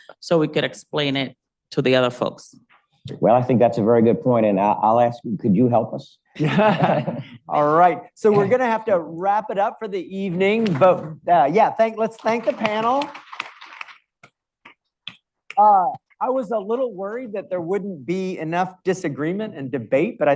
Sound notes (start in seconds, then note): 6.4 laugh; 12.2 audience applauds